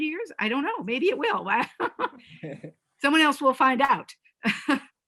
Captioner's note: laughs